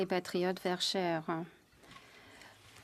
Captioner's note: speaking French